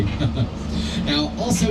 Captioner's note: lauging